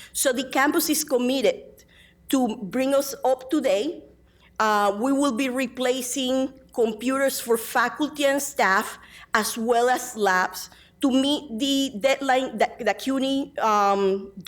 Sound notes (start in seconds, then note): none